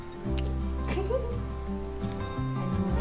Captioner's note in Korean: 웃음